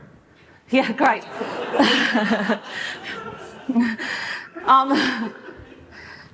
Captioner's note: laughter